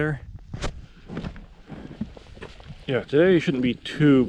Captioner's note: footsteps thumping